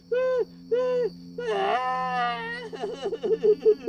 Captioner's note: melancholic ambient music; loud, desperate crying